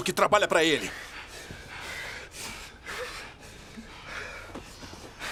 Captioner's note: gasping